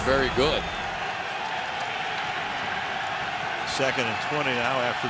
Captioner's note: cheering